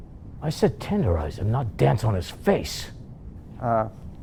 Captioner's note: none